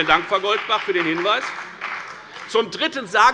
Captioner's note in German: Beifall bei der FDP